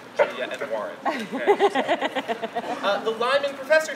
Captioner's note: woman laughing